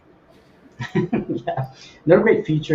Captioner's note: laughs